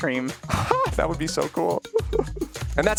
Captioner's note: laughs